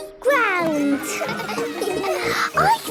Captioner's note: children laughing